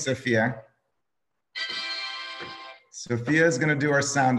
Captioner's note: soundboard ringing